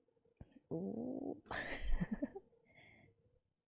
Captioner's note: laughs